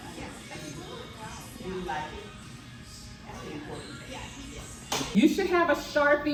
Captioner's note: all kinds of small talks